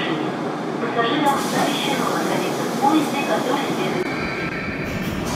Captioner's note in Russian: открытие дверей